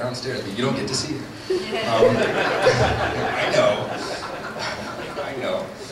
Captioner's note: laughter